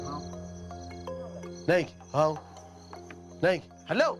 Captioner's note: speaking in foreign